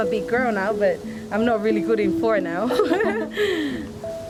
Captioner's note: laughs